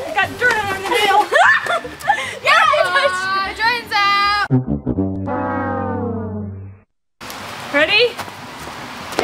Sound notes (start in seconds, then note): 1.9 screaming; 4.5 sad trumpets